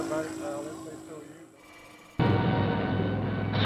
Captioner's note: faint man's voice; dramatic music